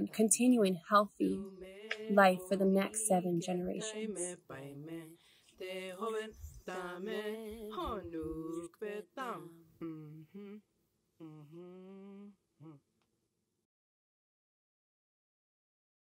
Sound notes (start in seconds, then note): 5.1 singing; 13.4 silence